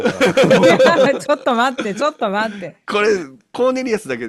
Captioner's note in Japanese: 笑い